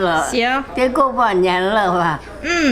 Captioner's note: grandma speaking Chinese; speaking Chinese; grandma speaking Chinese